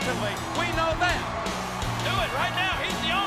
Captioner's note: audience cheers